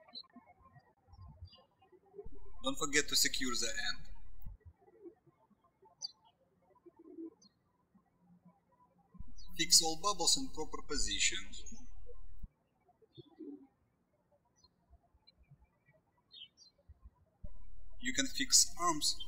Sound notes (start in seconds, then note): 0.0 birds chirping; 5.2 birds chirping; 12.7 birds chirping